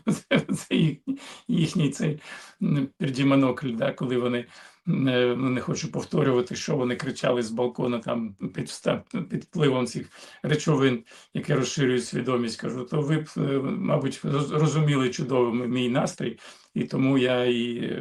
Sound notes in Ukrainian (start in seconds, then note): 0.0 сміх; 0.0 прочищення горла